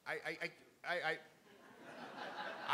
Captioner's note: crowd; laughing